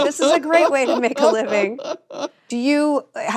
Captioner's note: laughs